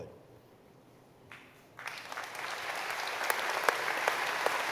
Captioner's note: applause